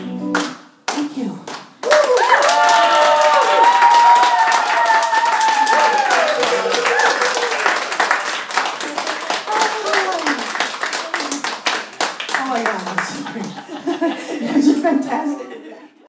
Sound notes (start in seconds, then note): 2.7 applause